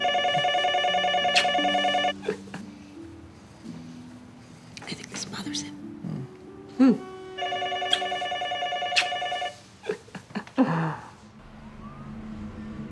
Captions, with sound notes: (PHONE RINGING) I think this bothers him. Hmm. Hmm. (PHONE RINGING) (CHUCKLING)